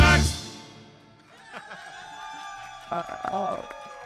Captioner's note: audience cheering; laughs; audience applauding